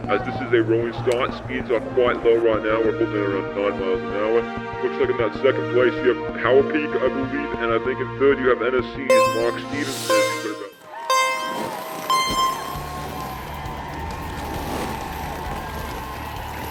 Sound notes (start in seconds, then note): 12.8 cheers